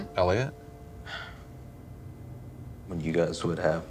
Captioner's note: sighs